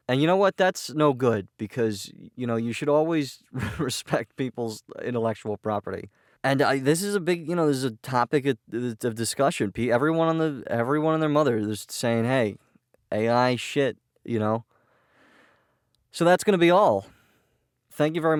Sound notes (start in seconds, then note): 3.6 laughing